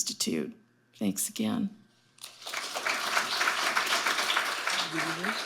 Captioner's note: audience applauding